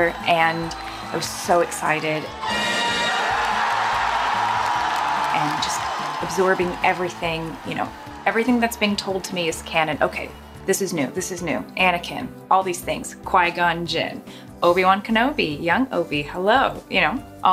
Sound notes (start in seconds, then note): 2.3 crowd cheers and claps loudly